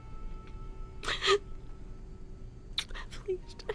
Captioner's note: sobbing